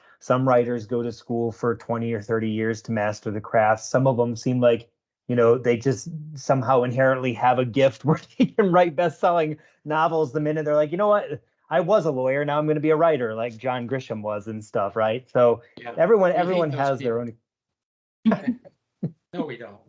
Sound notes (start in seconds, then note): 8.0 chuckling